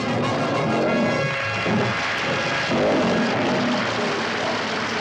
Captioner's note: audience applauds